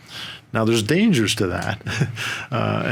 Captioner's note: chuckles